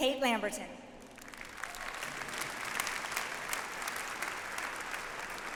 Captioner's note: audience applauds